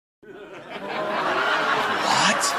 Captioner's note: crowd laughter